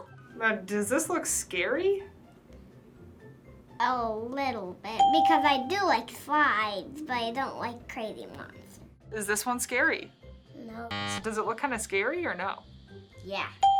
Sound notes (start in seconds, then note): 5.0 ding; 13.6 ding